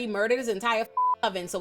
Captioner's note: beep